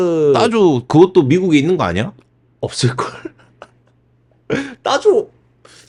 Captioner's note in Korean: 웃음